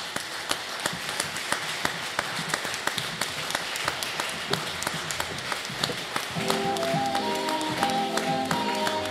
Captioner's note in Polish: oklaski